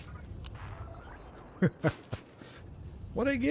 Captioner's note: laughs